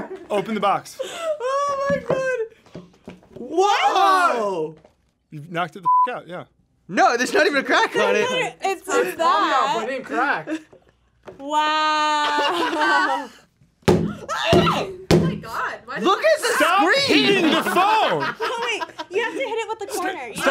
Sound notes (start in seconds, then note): 12.2 laughs; 14.5 loud thuds; 16.8 laughs